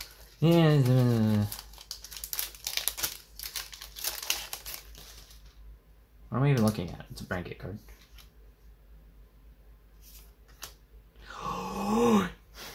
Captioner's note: gasp